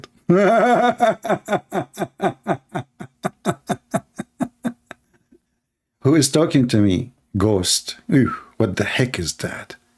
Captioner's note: Ketawa